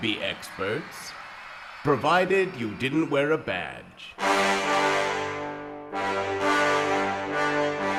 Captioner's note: crowd laughter